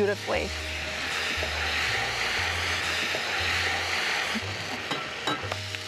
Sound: sizzling

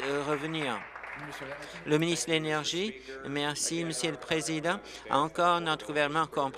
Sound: applause

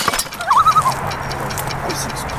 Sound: loon call

